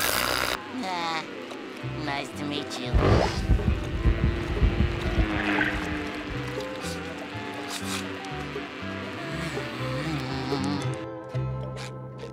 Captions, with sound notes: Nice to meet you. [buzzing] [sniffing] [buzzing]